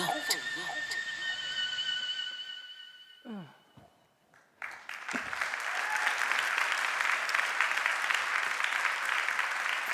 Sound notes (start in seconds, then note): 4.3 applause